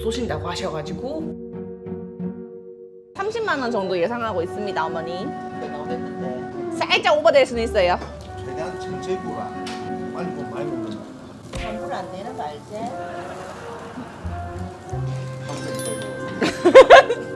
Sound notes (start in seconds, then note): 13.1 laughs